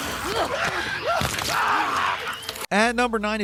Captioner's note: characters shouting and screaming